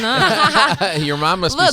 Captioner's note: laughing